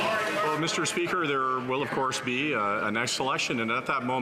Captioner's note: some Applause